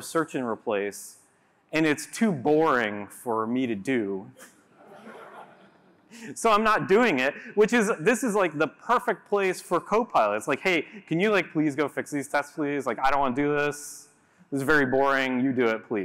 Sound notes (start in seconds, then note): 4.7 laughter